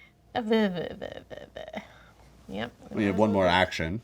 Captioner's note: Lys whimpers awkwardly